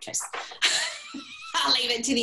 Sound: laughter

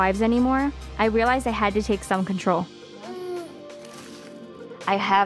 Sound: cooing

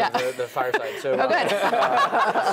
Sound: laugh

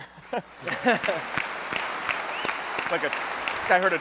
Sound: applause

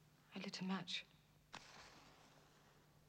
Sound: match flicks

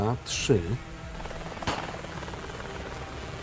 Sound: gunshot

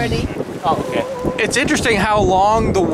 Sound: group chatter

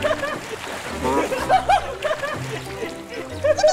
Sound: water splash

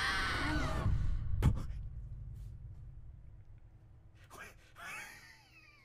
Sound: laughs

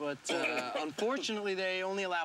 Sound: coughing

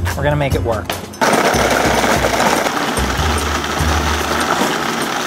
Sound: blender whirls

